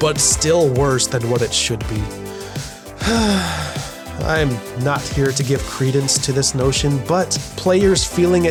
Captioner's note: sigh